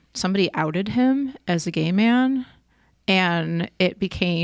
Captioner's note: none